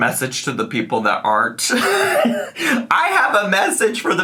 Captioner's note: laughs